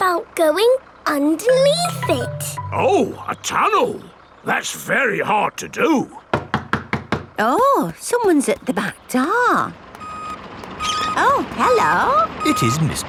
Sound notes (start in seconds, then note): 6.3 knocking at door